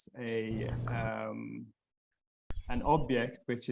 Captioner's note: loud humming